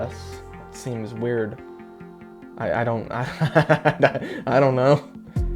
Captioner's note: laughs